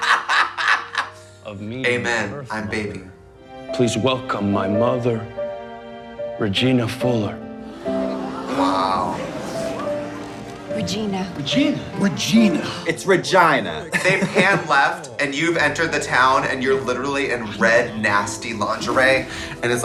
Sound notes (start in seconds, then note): 0.3 woman laugh; 7.6 all gasp